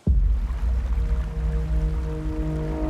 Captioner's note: water sloshing